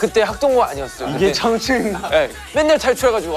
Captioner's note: haha